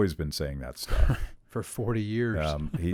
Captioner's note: laughs